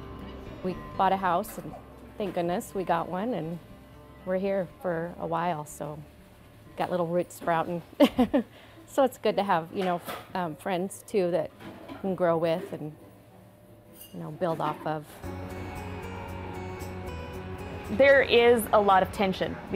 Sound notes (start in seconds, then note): 8.0 laughs